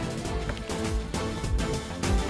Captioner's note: Door opens